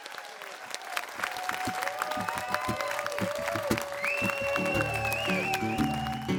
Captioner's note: crowd cheers